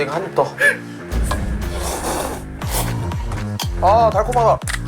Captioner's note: taking a huge slurp of noodles